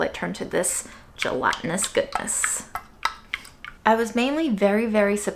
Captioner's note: broth splashing